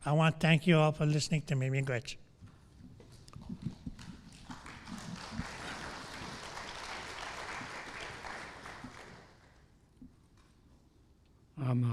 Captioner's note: applause